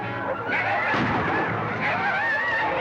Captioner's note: gunshot